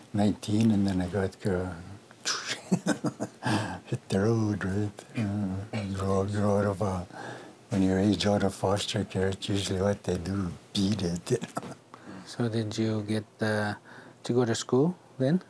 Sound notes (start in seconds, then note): 2.3 laughs; 11.2 laughs